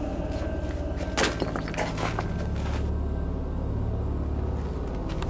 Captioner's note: glass shatters